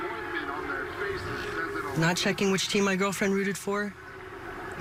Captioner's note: football on TV